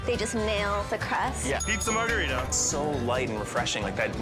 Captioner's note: bell rings